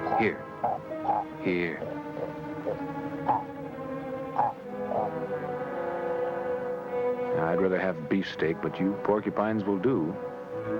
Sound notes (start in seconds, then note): 3.2 grunting